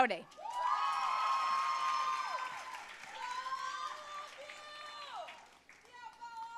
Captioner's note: audience cheering and applauding